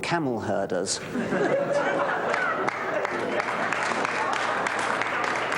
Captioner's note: laughter